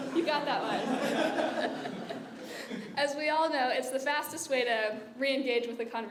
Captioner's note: laugh